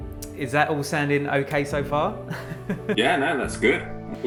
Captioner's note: laughs